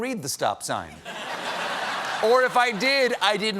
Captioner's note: laughter